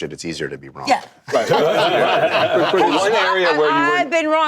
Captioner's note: laughter